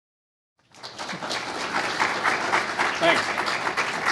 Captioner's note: applause